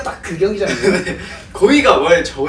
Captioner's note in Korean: 웃음